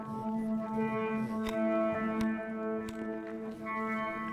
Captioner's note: sound of hammer hitting rock